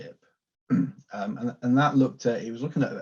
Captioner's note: clears throat